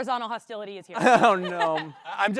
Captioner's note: laughing